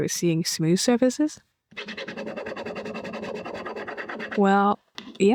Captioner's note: aggressive rubbing